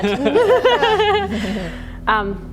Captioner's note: laughing